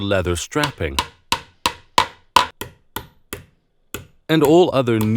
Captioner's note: hammer banging